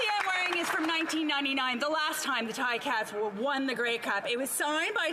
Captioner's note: some Applause